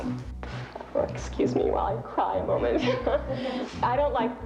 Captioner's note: chuckles